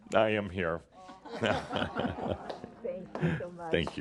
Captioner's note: they chuckle and hug